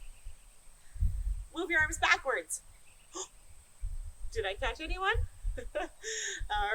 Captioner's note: laughter